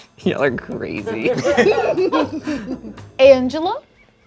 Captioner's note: quiet jazzy music; group laughing